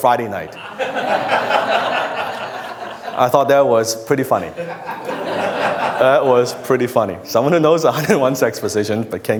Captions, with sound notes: (laughter) I thought that was pretty funny. That was pretty funny. Someone who knows 101 sex positions